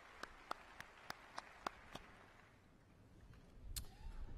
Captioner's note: applause